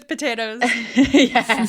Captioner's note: laughing